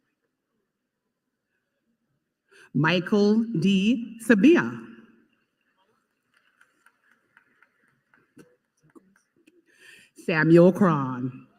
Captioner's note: applause